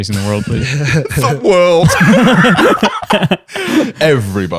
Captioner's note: laughter